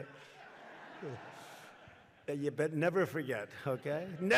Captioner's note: laughter